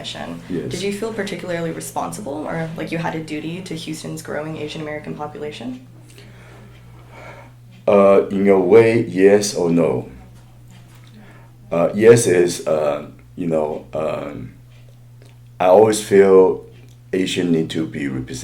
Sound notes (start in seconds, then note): 6.3 sighs